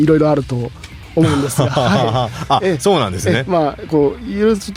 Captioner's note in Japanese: 笑い